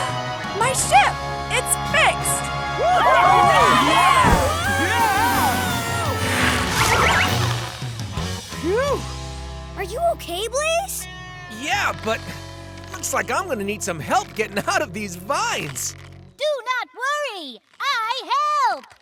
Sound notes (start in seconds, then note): 2.7 cheering; 2.8 screaming